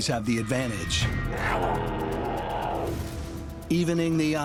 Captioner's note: cat growls